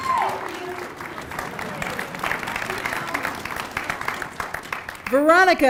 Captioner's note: applause